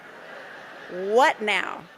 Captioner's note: audience laughing